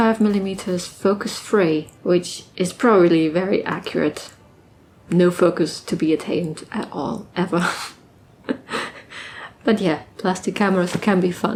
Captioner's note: laughs